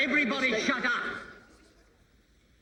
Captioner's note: chatter stops